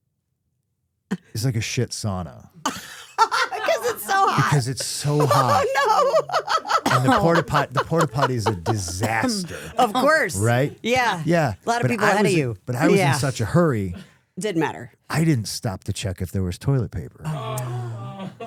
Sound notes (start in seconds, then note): 2.9 Stephanie laughs; 6.8 laughs